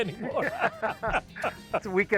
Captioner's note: both laugh